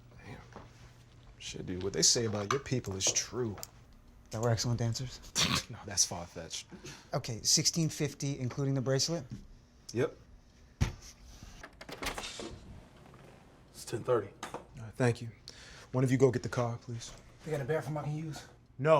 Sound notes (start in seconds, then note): 5.4 laughing